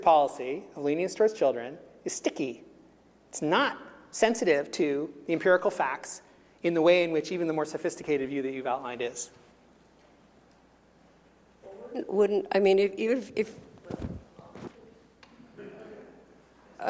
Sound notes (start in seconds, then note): 13.5 murmuring; 15.4 chuckling